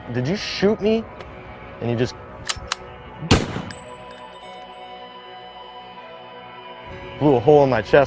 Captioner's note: reload sound